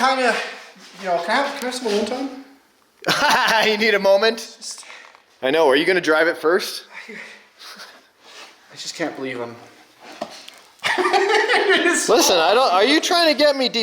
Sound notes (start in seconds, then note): 3.0 laughs; 5.2 exhales loudly; 10.8 laughs